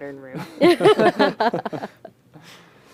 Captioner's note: laughter